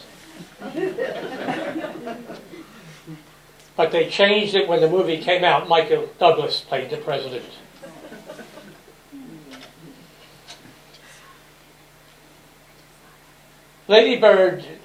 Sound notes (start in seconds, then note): 0.3 laughter; 7.7 laughter